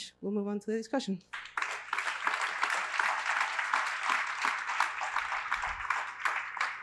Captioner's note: applause